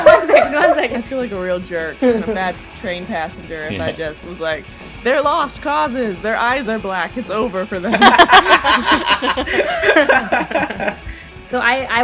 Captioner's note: laughter